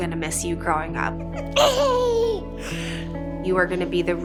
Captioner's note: giggles